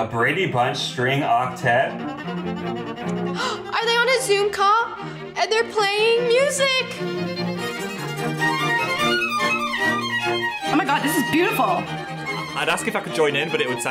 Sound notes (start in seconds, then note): 3.2 gasps; 7.4 upbeat string music